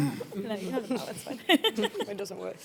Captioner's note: laughs